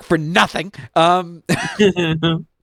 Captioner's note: laughs